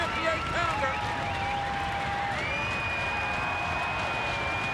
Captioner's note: crowd cheering